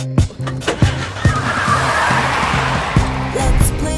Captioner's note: car skid